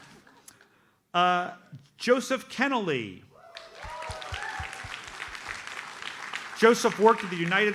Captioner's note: audience cheers and applauds